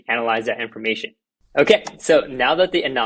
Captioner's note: claps